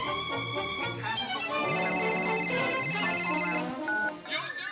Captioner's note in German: Telefonklingeln